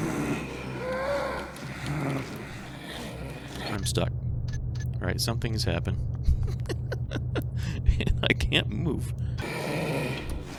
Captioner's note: bangs fingers on keyboard; laughs